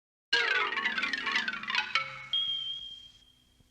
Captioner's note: bell ringing; soft music